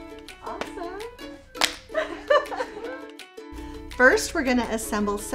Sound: laughing

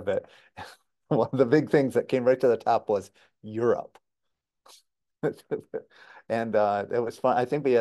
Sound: laughing

